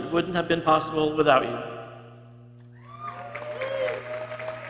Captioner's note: people cheering